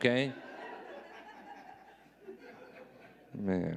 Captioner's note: audience laughing